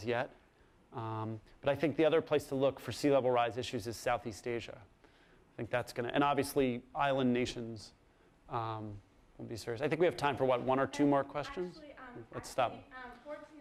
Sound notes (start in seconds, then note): 11.3 voiceover